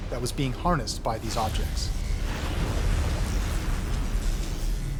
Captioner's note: electricity buzzing